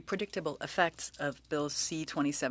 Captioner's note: speaking french